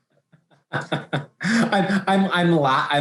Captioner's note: laughing